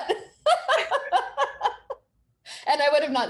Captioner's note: both chuckling